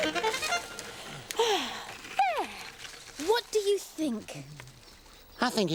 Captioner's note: sighs